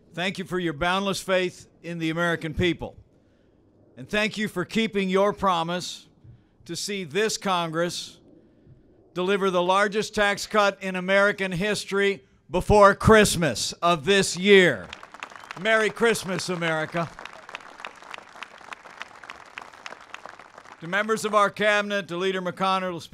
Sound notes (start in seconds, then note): 17.0 applause